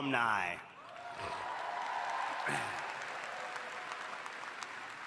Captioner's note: audience applauding